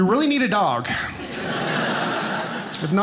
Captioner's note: audience laughing